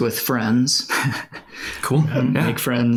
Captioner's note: laughs